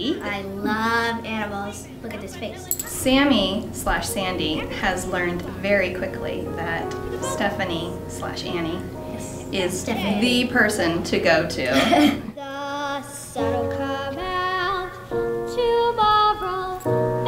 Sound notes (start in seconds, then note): 11.7 laughter